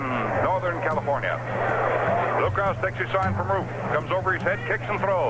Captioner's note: crowd cheering